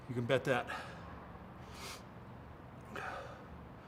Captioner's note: Mark panting